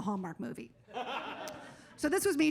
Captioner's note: audience laughs